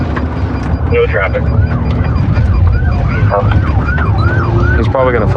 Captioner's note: sirirenens wawaililing